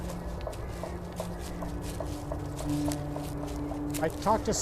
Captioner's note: leaves crunching; suspenseful music